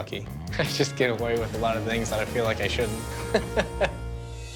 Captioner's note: laughs